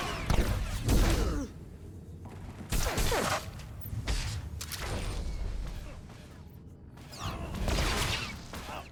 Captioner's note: gun fires